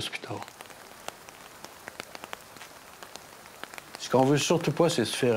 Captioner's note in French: pluie